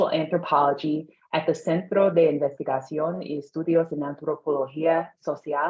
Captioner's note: speaking in Spanish